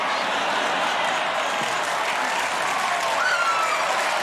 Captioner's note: crowd cheers